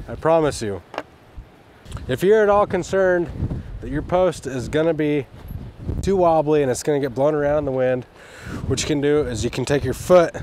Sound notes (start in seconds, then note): 0.8 post clanking